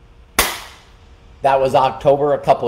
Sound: clapping hands

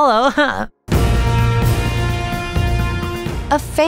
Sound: breaking news audio

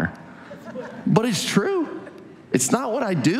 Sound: audience laughs

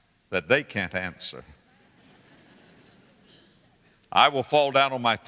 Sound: audience laughter

